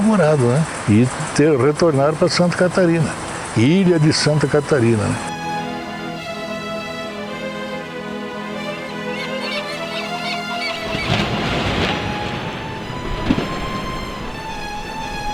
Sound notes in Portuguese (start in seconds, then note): 4.7 melodia de suspense em instrumentos clássicos; 8.3 grasnido de gaivotas; 8.3 melodia de suspense em instrumentos clássicos; 10.9 trovões